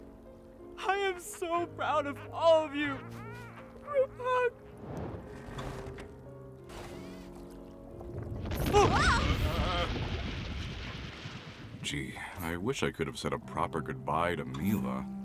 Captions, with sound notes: I am so proud of all of you. Group hug! Whoa! - Uh, uh! - [Screams] Gee. I wish I could have said a proper goodbye to Mila.